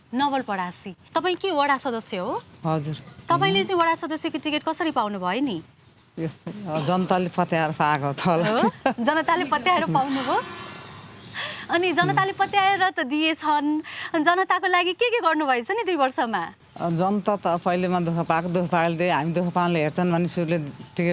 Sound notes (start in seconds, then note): 8.2 laughing